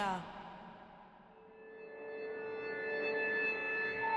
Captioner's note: piercing, humming note